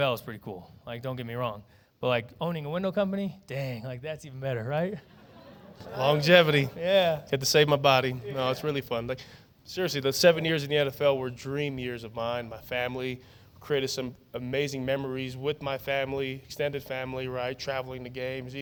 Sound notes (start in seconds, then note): 4.9 laughter